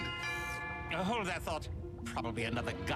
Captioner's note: doorbell rings